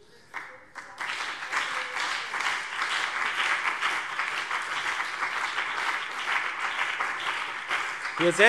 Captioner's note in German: Beifall BÜNDNIS 90/DIE GRÜNEN und CDU